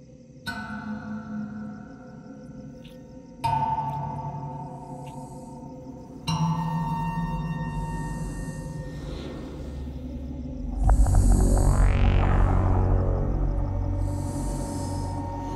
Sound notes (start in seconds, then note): 6.4 killer breathing heavily; 7.0 eerie music intensifies